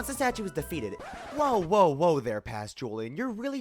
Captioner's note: record scratch